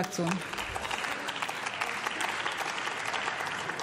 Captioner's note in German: Beifall